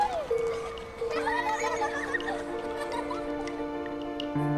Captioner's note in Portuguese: Risadas de crianças